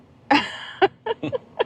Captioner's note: laughing